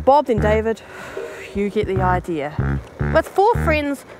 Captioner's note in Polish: <i>westchnienie</i>